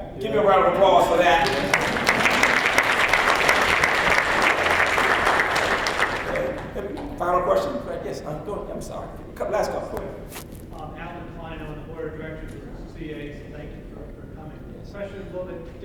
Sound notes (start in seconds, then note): 0.8 applause